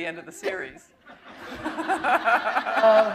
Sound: chuckle

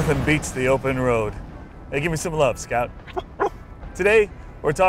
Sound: scout barks

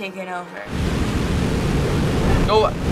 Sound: beam roaring

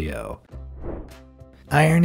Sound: air whooshing

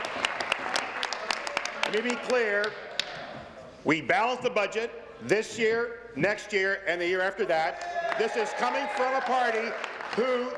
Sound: applause

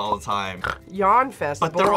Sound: snores

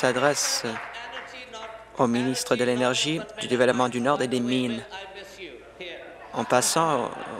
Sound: applause

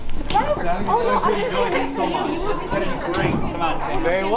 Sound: people talking

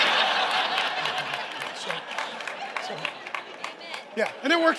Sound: congregation laughing

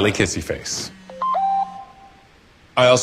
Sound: phone beeps

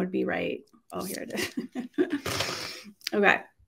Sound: giggles

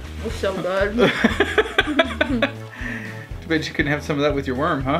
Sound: dad laughing

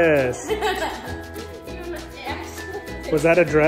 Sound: laughs

